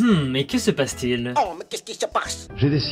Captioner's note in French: accent très très très exagéré* OH MAIS QU'EST-CE QUI SE PASSE?